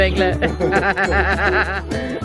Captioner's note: laughing